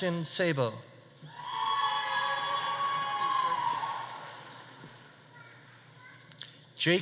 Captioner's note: audience cheering; audience applauding